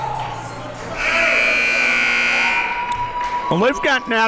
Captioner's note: buzzer ringing